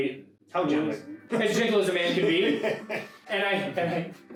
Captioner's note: laughing